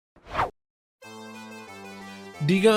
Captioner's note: whoosh